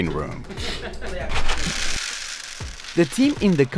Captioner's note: rattling